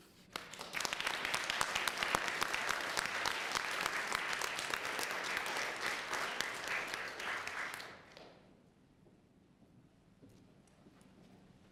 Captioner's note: applause